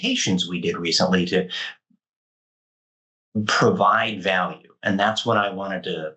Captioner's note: mic cutting